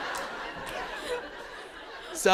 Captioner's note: laughter